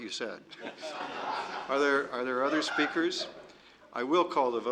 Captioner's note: laughter